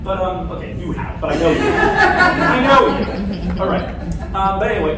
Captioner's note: laughter